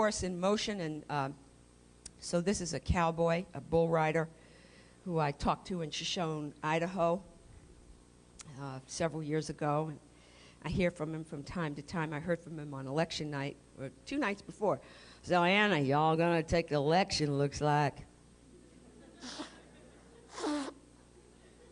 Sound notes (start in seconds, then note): 15.0 impersonation; 18.6 laughter